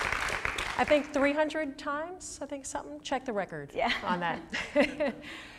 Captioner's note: applause; laughing